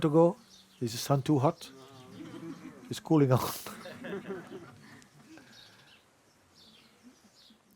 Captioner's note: laughter